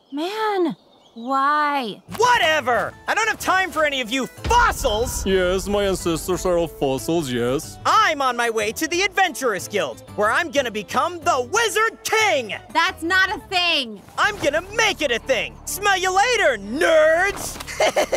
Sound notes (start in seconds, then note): 2.4 upbeat cheerful music; 4.4 dramatic thumps; 13.4 upbeat cheerful music; 16.7 upbeat adventurous music